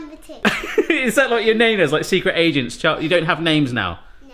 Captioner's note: laughs